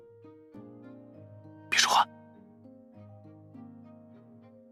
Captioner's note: whisper